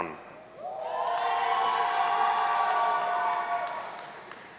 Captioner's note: audience cheering